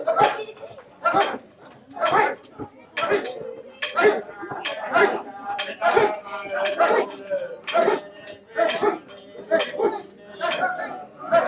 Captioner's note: chanting